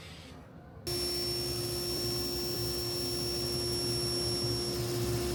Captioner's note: equipment whirring